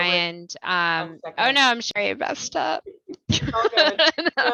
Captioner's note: laughter